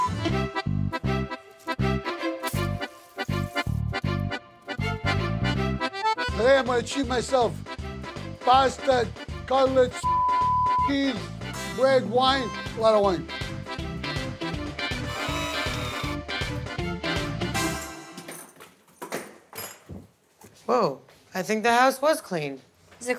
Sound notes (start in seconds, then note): 0.1 classic Italian music; 10.0 beep; 13.4 classic Italian music continues; 18.1 keys rattling